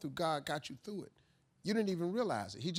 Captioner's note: none